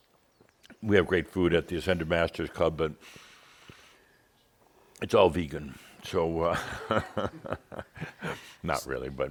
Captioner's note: chuckles